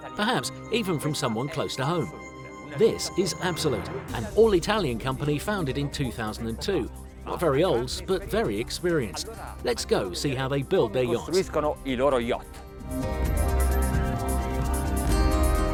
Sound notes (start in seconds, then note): 11.5 speaks Italian; 12.9 upbeat music